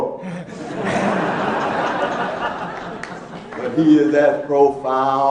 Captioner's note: laughing